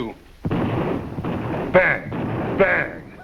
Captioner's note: gunshot firing